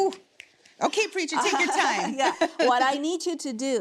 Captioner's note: laughs